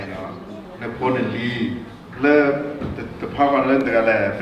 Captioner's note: foreign language